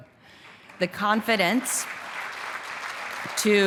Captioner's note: applause